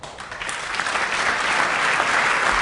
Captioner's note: applause